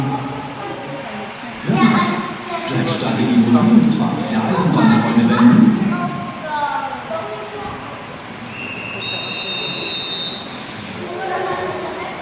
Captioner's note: conductor's whistle